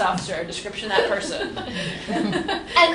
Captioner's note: laughter